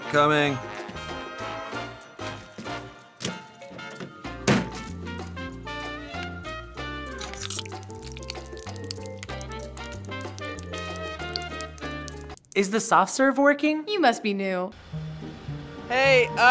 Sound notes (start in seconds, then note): 1.1 quirky music; 4.4 table banging; 5.7 quirky music; 7.0 mayo squelching; 14.8 jaunty music